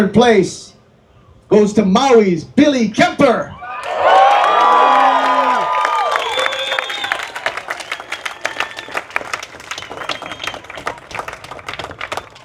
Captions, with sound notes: Third place goes to Maui's Billy Kemper. [Applause]